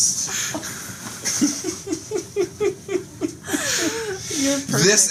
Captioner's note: laughter